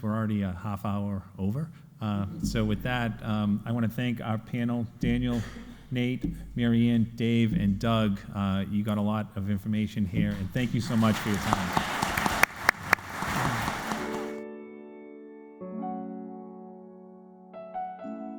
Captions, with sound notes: We're already a half hour over. So with that I want to thank our panel, Daniel, Nate, Marianne, Dave, and Doug. You got a lot of information here and thank you so much for. (audience applauding) (cheery music)